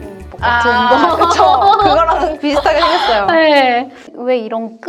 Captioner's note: laughter